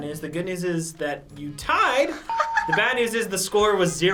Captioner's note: bell rings